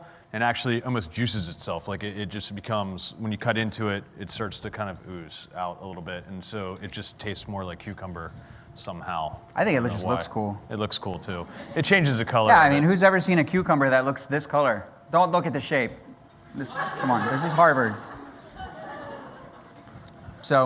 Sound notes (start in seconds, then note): 16.5 laughter